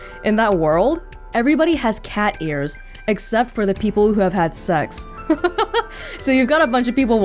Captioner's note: chuckles